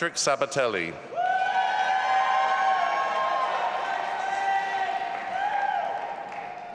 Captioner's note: audience applauding and cheering